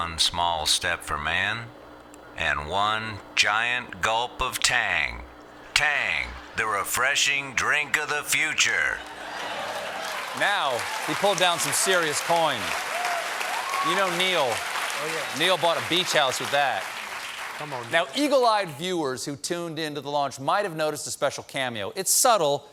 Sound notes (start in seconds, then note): 11.5 cheers and applause